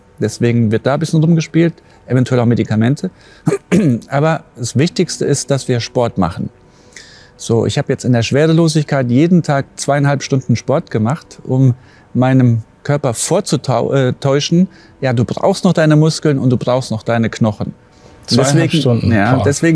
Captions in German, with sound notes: Deswegen wird da ein bisschen rumgespielt. Eventuell auch Medikamente. (Räuspern) Aber das Wichtigste ist, dass wir Sport machen. So, ich hab jetzt in der Schwerelosigkeit jeden Tag zweieinhalb Stunden Sport gemacht, um meinem Körper vorzutäuschen, du brauchst noch deine Muskeln, und du brauchst noch deine Knochen. Zweieinhalb Stunden, boah. - Ja.